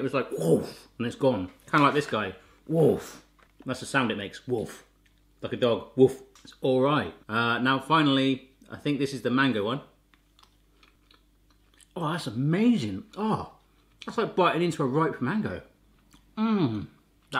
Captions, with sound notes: It was like, whoof, and then it's gone. Kind of like this guy, whoof. That's the sound it makes, whoof. Like a dog, woof. It's all right. Now finally, I think this is the mango one. (chewing) Oh, that's amazing, oh, that's like biting into a ripe mango, mmmmm.